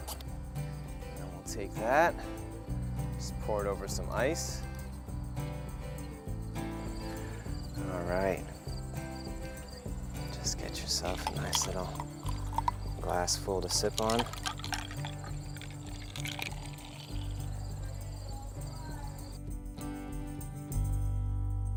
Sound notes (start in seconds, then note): 14.6 ice clinking; 19.0 folk music